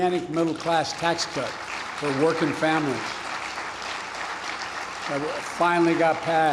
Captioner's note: applause